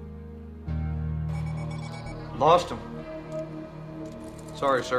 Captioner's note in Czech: Pípaní